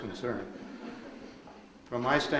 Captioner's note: audience laughs